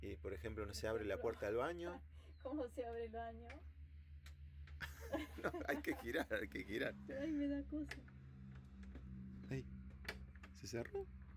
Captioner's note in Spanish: risas